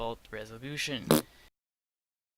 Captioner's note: fart noise